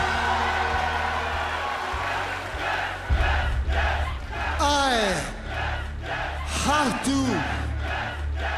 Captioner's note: cheers and applause